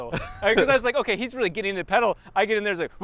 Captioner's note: laughs